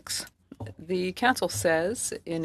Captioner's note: speaking French